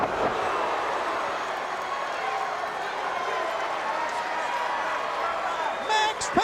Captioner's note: crowd cheering